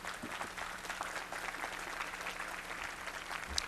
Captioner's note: applause